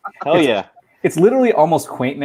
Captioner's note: laughing